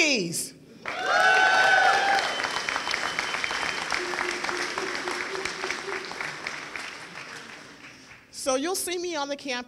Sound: applause and cheering

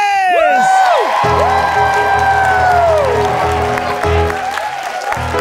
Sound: audience cheering

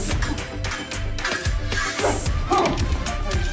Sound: metal clangs over charged music

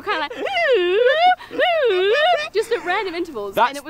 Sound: giggling; imitates anxious slide whistle

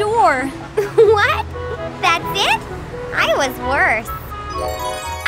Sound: giggles

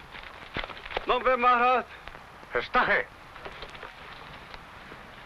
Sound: speaking foreign language

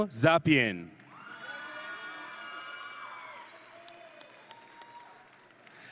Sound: audience and graduates cheering

